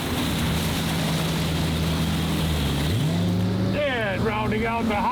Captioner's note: engine rumbles